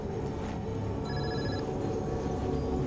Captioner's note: phone rings